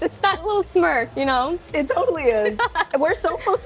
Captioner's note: laughing